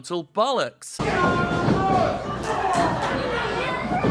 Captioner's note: crowd laughing